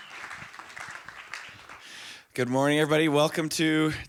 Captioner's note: applause